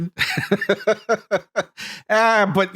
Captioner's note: laughing